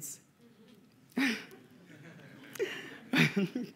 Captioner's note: laughter